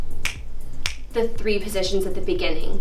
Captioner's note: snaps